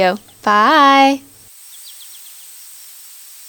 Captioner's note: forest sounds